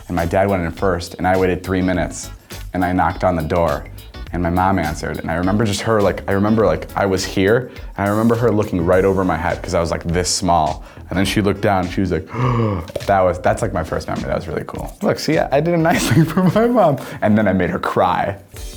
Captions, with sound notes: and my dad went in first and I waited three minutes, and I knocked on the door, and my mom answered, and I remember just her, I remember I was here, and I remember her looking right over my head 'cause I was this small, and then she looked down. She was like. (gasps) That's my first memory. That was really cool. See I did a nice thing for my mom, and then I made her cry.